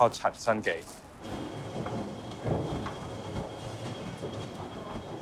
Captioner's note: footsteps thudding